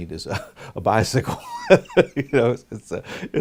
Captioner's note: laughs